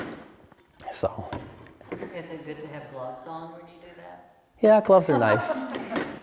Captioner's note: laughter